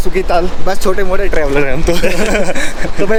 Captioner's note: laughs